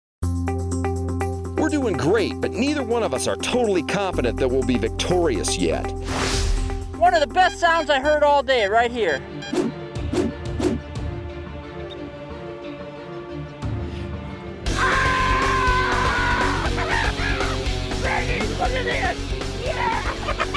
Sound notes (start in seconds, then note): 0.3 instrumental music; 10.2 dramatic music; 14.6 screams